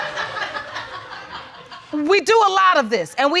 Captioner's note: audience laughing